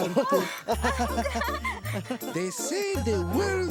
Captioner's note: laughing